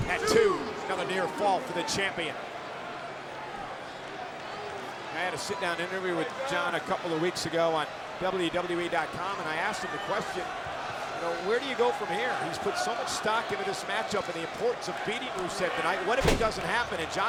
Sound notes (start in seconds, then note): 3.4 crowd murmuring